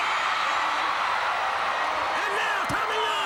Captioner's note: crowd cheering